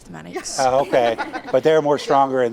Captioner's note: students and laughing